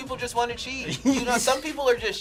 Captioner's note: both laugh